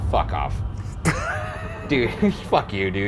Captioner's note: laughs